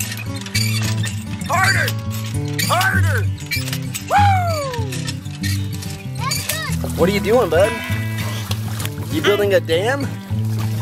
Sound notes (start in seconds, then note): 4.0 cheers